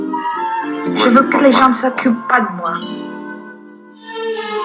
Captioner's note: voiceover of woman speaking in french; romantic music